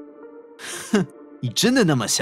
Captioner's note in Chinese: 嗤笑